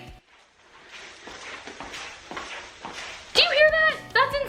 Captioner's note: loud swishing